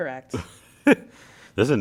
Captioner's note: laugh